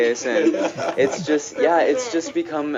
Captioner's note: laughing